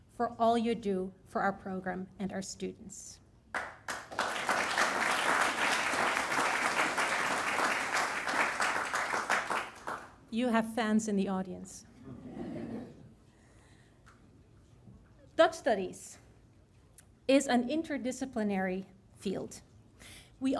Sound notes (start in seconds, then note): 3.5 audience applauding; 12.5 audience laughing